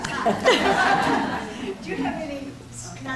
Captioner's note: audience laughing